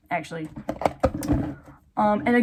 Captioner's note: rattling my iPad